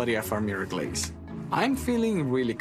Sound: hands slap

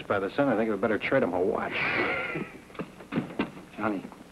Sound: men laughing

